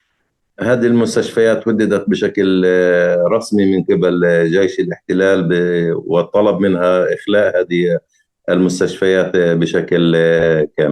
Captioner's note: speaking arabic